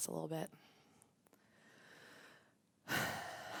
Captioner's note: deep breath